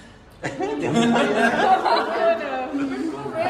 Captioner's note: everyone laughs